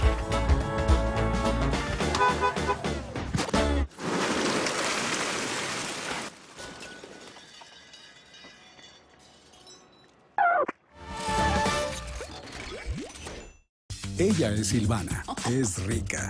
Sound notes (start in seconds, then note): 3.4 Sonido del claxon; 3.9 Estruendo al caer peces